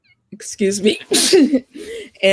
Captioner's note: sneezes